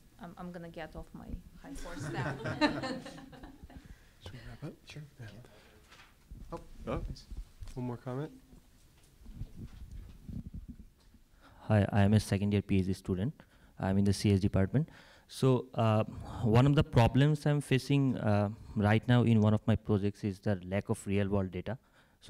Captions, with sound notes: I’m gonna get off my high horse now. >> [LAUGH] >> Should we wrap up? >> Sure. >> Yeah. >> One more comment? >> Hi, I'm a second-year PhD student, I am in the CS department. So, one of the problems I'm facing right now in one of my projects is the lack of real world data.